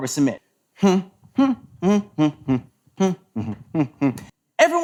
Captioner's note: humming "The Smurfs" theme song